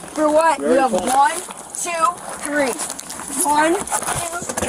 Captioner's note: none